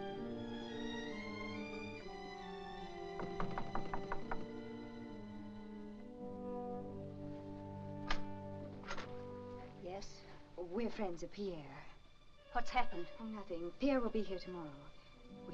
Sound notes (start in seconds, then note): 0.0 soft ominous music; 3.1 knocking on door; 8.8 door opens